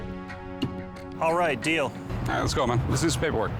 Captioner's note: none